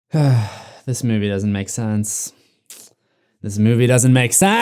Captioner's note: sigh